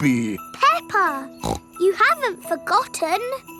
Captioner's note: snorts